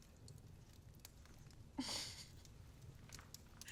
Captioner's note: giggling